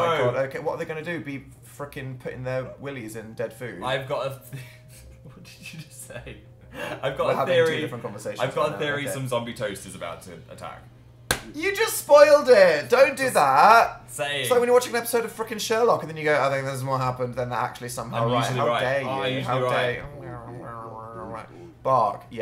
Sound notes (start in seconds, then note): 4.6 laughs